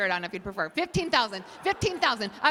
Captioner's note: laughter